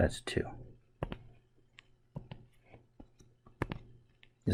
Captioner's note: writing Sounds